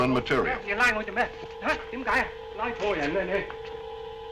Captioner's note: speaking in Japanese